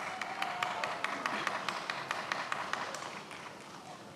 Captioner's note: many applauding